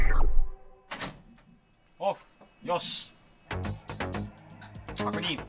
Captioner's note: speaking Japanese